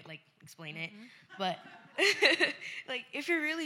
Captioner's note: laughter